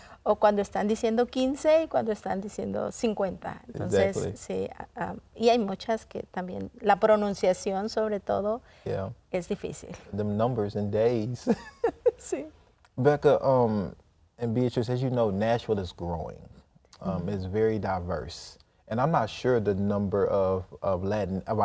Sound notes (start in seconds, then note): 5.5 speaking in Spanish; 11.5 laughs